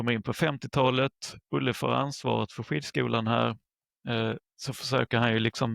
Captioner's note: Swedish